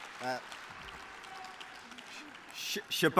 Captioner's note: applause